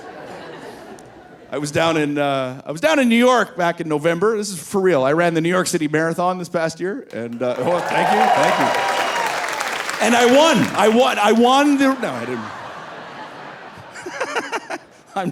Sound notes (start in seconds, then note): 0.0 audience laughing; 9.0 audience cheering; 12.9 audience laughing; 13.7 laughing